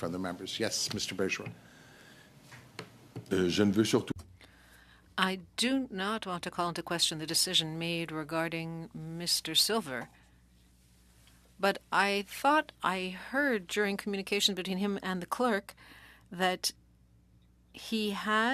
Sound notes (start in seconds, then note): 8.0 speaking French